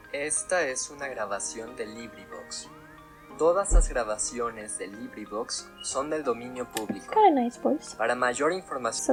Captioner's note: narrator reads intro in Spanish